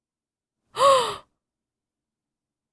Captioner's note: gasp